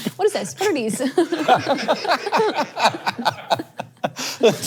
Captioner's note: all laughing